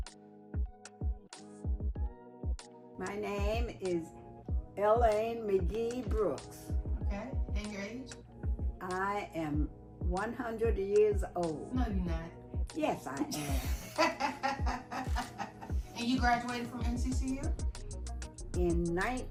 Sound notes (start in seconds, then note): 0.0 upbeat music; 13.2 laughing